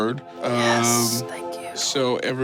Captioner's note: spiritual music; whispers